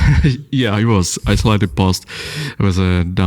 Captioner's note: laughs